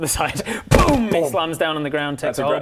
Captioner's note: boom